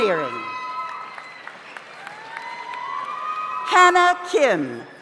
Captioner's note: audience cheers; audience applauds